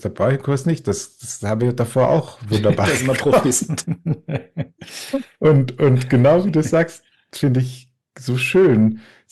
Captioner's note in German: gelächter